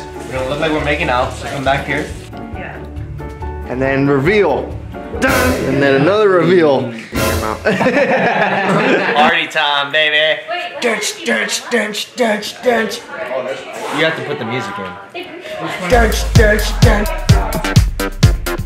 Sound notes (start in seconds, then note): 7.6 laughter